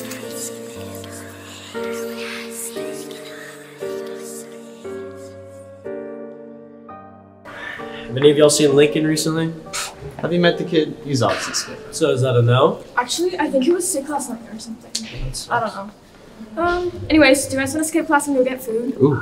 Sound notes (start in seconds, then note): 0.0 creepy whispers continue; 7.5 sighs